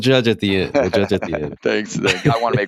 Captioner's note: laughter